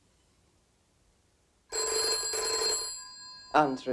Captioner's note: phone ringing